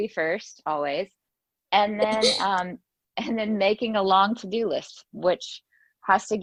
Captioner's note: laughs